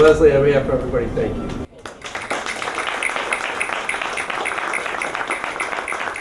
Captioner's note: applause